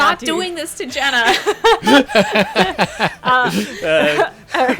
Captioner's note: laughing